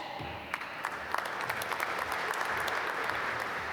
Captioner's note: applause